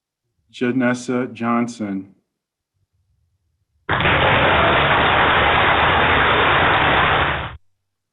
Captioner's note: applause